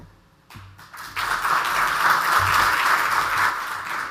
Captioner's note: audience applauds